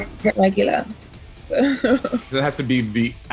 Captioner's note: laughs